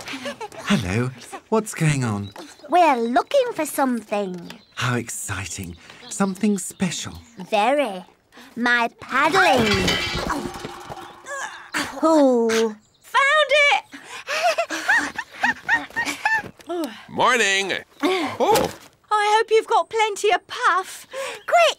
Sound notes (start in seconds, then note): 9.2 clattering / groaning